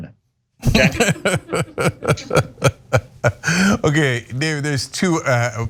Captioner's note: laugh